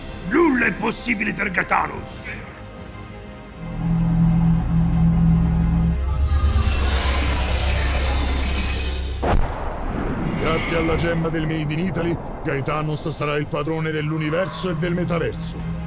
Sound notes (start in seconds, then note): 1.9 spaceship buzzing; 6.0 epic music continues